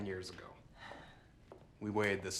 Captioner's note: Claire sighs